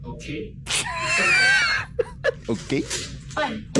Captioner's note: laughs